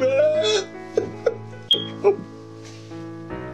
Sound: sobbing

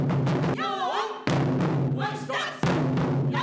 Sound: all shout

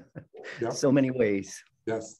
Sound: laughs

